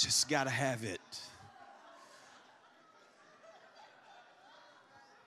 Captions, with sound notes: I just got to have it." (congregation laughs)